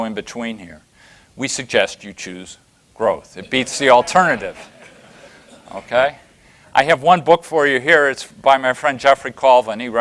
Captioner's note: laughter